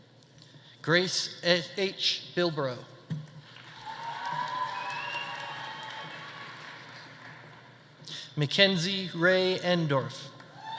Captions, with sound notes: Grace H. Bilbro. (audience applauding) (audience cheering) McKenzie Rae Endorf.